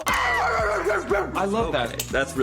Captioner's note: barking